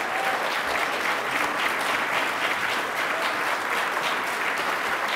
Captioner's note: attendees applauding